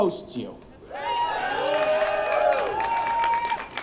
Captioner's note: applause